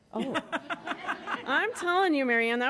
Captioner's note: laughing